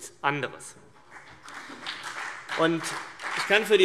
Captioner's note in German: Beifall CDU und BÜNDNIS 90/DIE GRÜNEN